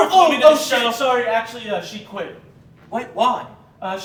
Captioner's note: none